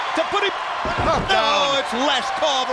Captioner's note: Ric thudding on ring